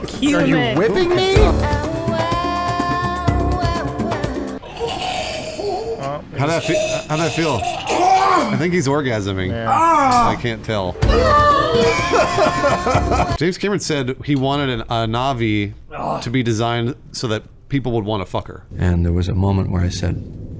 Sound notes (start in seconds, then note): 4.6 violent sucking pleasure noise; 6.5 pleasurable coughs; 11.9 laughter